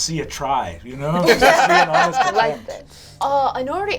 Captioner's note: all laugh